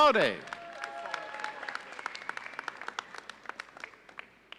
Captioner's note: audience applauding